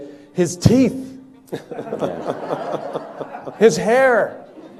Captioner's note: people laughing